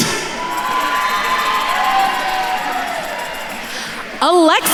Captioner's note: attendees cheering